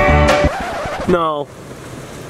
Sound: record scratch

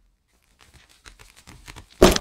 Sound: walking footsteps; footsteps start to run getting louder

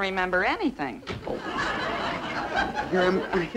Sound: audience laughing

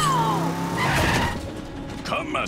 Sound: tires screeching

